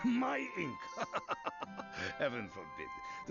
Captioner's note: laughs